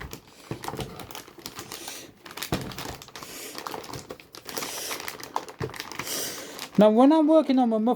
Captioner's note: motherbord anti-static bag noise